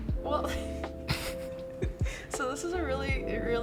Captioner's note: laughter